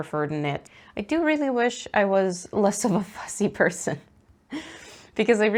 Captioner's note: laughs